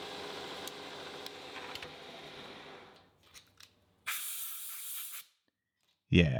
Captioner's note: machine whirring continues